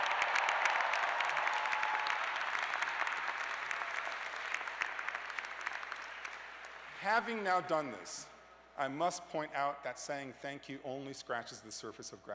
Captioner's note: cheers and applause